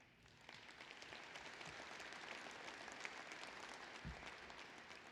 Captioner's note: applause